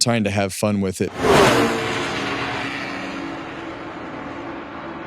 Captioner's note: engine revving